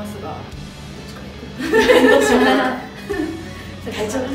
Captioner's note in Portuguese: risos